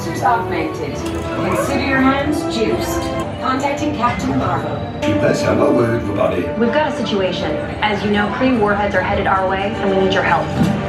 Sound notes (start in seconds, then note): 0.0 Iron Man speaking French; 0.0 thrilling music; 6.0 Iron Man speaking French